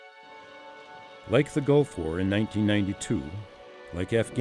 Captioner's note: voiceover